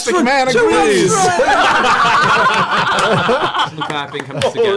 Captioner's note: laughter